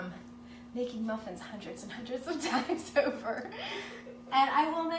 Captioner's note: laughs